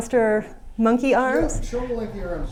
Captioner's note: manís voice